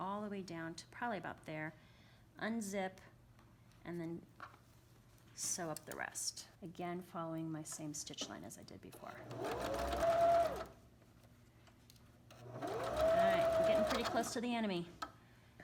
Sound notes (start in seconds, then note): 9.0 sewing machine hums